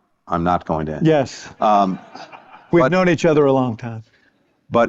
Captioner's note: laughter